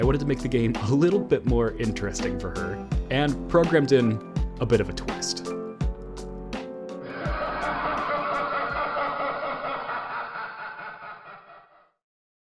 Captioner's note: maniacal Laughter